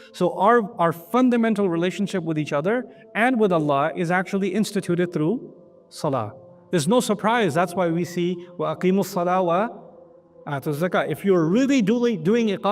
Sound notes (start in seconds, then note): 8.6 Arabic